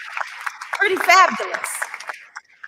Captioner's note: applause